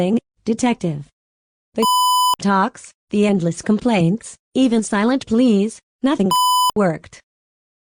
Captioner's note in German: Piep